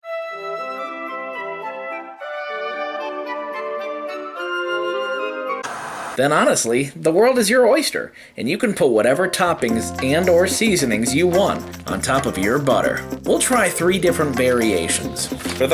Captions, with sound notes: (whimsical music) (static) Then honestly, the world is your oyster and you can put whatever toppings and or seasonings you want on top of your butter. We'll try three different variations.